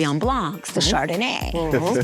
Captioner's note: laughing